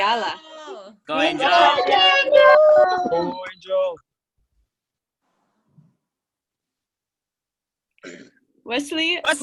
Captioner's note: cheering